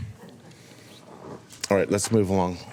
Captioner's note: laughter